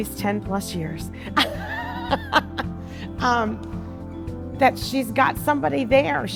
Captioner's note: laughing